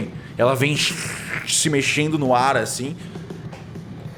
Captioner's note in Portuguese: shrr